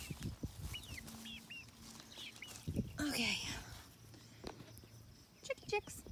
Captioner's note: calls chicks